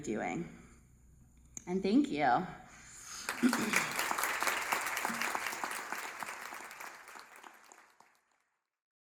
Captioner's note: applause